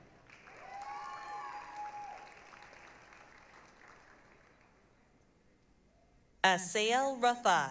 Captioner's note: applause, cheering